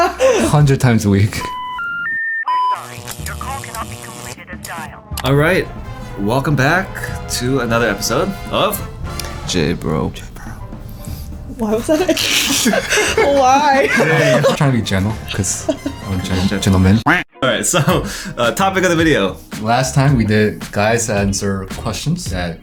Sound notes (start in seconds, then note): 10.1 whispers; 11.6 laughing